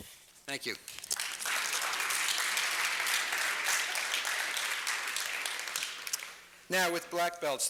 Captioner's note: applause